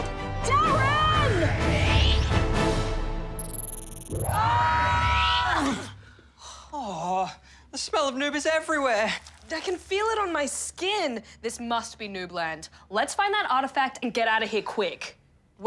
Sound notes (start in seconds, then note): 8.6 squelching